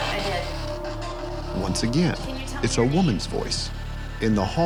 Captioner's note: voiceover